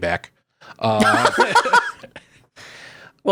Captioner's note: laughing